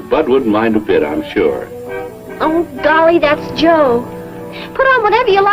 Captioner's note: car tooting